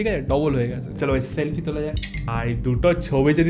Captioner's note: snaps